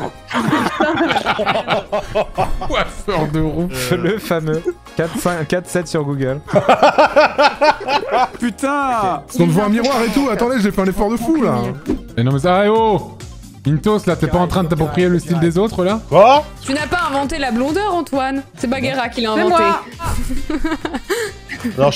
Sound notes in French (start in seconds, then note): 0.0 Entre deux rires; 6.6 éclate de rire